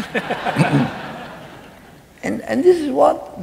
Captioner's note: laughing